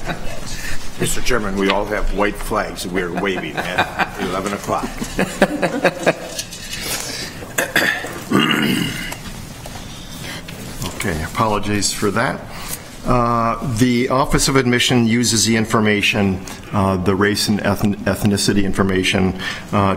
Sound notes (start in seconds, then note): 5.2 laughter